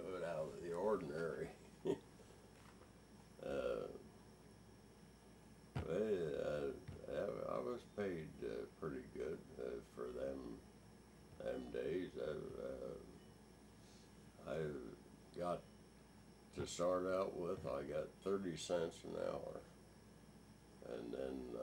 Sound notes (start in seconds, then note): 4.3 chuckles